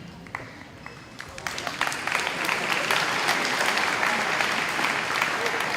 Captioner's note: audience applauding